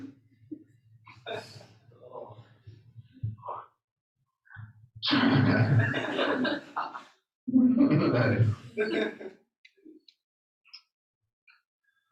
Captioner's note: laughter